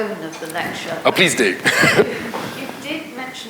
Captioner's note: laughs